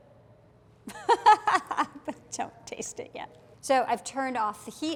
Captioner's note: laughs